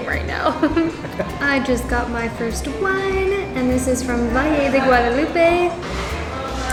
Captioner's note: laughs